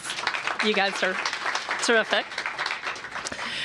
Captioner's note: applause